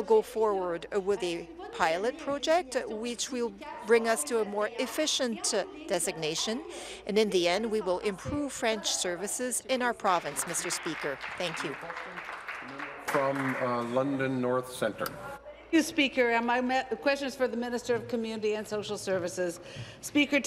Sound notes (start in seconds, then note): 14.8 applause